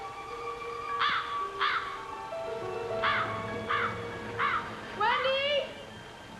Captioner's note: crow cawing